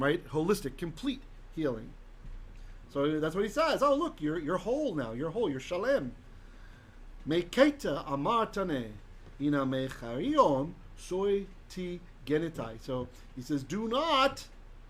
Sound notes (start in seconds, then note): 6.5 Hebrew